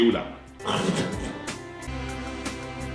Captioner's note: gross spit sound